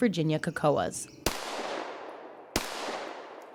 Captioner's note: gun shots